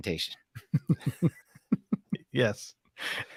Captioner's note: laughs